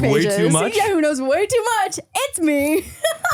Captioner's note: laughs